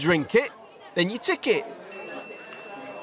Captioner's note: ding